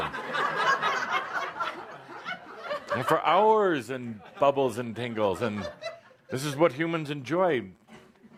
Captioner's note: laughter